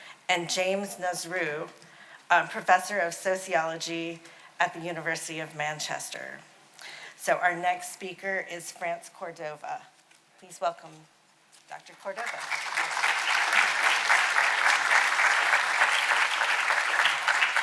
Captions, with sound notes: And James Nazroo, Professor of Sociology at the University of Manchester. So our next speaker is France Cordova. Please welcome Dr. Cordova. (audience applauding)